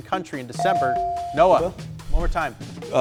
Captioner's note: buzzer chimes